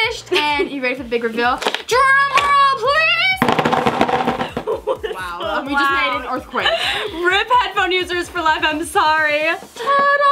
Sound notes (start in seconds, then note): 3.4 drumming on table; 4.4 laughs